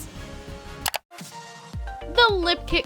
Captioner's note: clicking